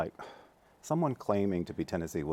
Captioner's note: sighs